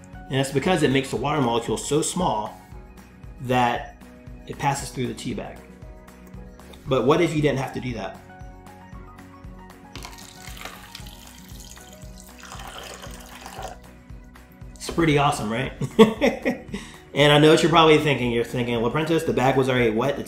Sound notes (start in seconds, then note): 9.9 water pouring; 16.1 laughs